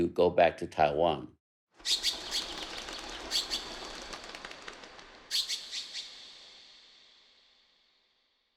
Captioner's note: soundbite of birds calling